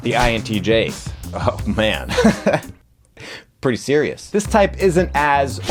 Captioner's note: laughs